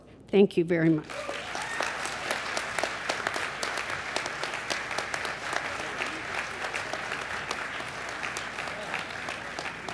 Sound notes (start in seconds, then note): 2.0 applause